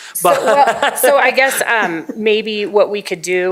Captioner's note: laughter